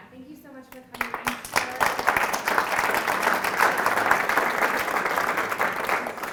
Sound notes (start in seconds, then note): 0.9 audience applauds